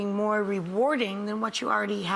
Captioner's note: none